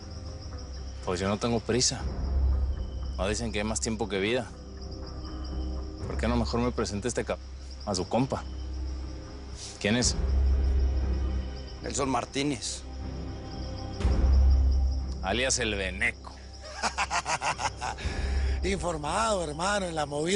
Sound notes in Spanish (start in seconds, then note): 16.6 Risas